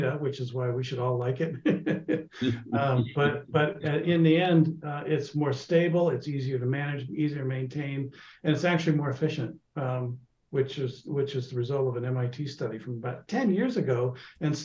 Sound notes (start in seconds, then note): 1.4 laughs; 3.9 laughing